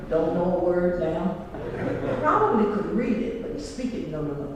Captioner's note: laugh